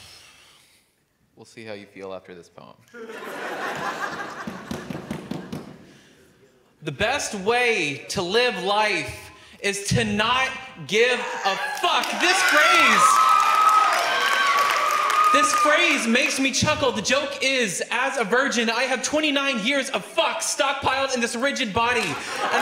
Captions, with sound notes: - We'll see how you feel after this poem. (audience laughs) The best way to live life is to not give a fuck. (audience cheering) This phrase, this phrase makes me chuckle. The joke is as a virgin, I have 29 years of fucks stocked piled in this rigid body